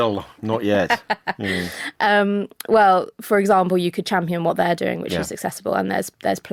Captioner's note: laughs